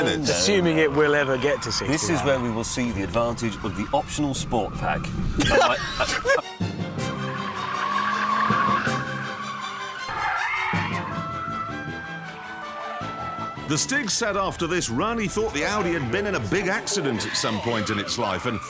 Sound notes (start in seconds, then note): 5.3 richard laughs